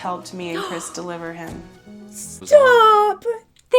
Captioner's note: gasps